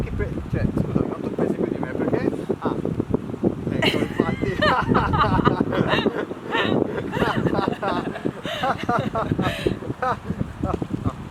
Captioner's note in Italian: risate